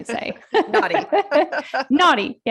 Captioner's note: laughter